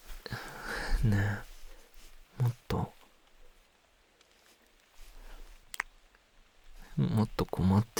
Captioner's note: light kiss